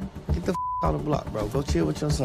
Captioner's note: beep